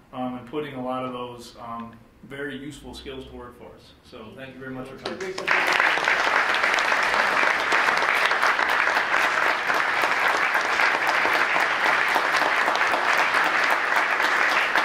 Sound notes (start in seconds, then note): 5.4 applause